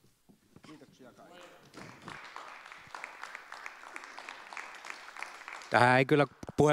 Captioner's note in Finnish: Aplodit